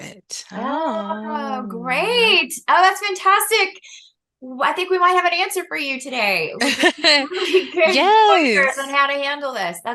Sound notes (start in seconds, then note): 6.6 laughter